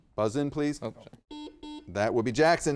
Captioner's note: buzzer beeping